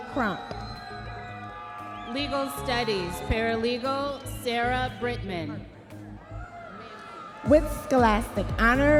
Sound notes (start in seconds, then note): 0.0 audience members cheering